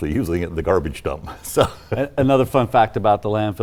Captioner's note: chuckles